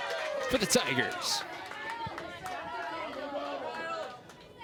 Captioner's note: crowd cheering